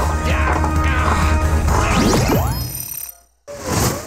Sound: Jerry groaning

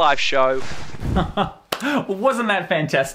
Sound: laughs

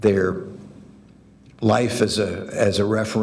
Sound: none

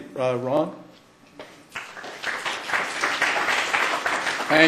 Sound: applause

